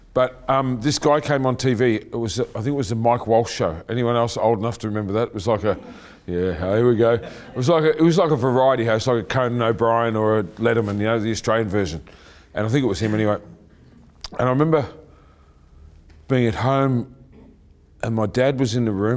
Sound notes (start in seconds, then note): 6.7 laughing